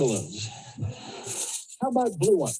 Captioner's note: audience laughs